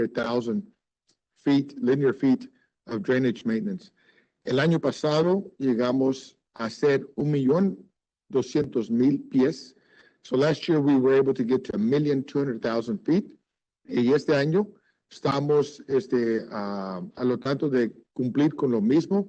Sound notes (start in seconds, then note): 6.5 speaking Spanish